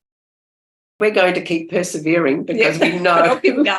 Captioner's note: laughter